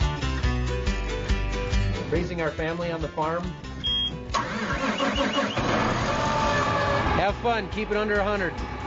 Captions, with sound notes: Raising our family on the farm, (tractor engine roaring) have fun, keep it under 100.